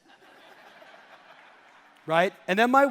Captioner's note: audience laughing